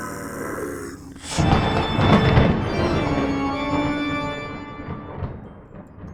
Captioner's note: thunderclap